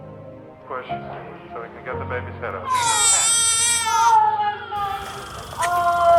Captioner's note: baby screaming